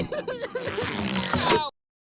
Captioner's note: sobbing